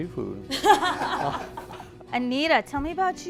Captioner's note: laughs